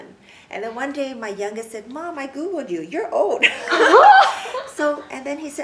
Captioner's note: everyone laughs